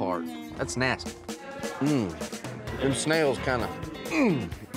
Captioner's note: grunts